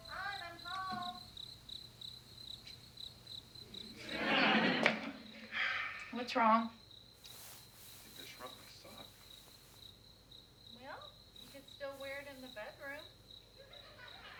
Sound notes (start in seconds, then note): 0.0 TV sounds play; 3.9 canned laughter; 7.2 TV sounds continue